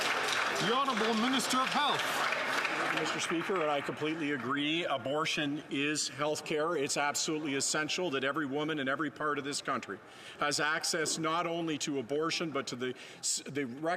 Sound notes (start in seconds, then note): 3.9 some Applause